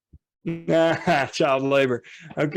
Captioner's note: laughs